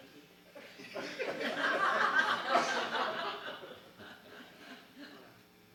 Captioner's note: laughter